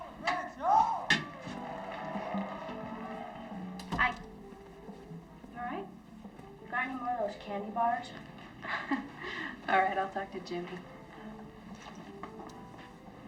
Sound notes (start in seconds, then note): 1.8 audience applauding; 8.5 laughs